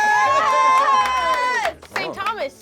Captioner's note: applause